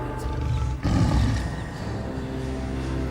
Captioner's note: growling